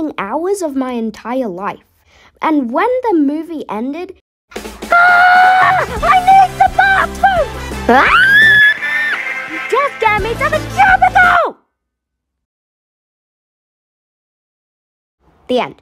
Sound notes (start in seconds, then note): 7.9 screams